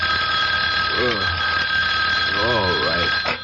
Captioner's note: bell rings